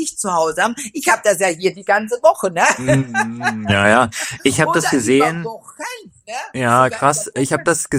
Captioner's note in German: gelächter